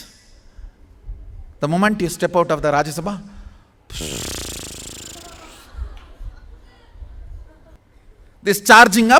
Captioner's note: audience laughing